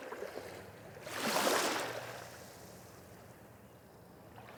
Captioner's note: water sloshing